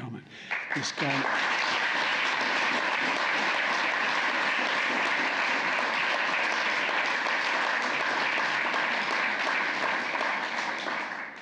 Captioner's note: applause